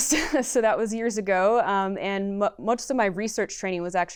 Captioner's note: laughter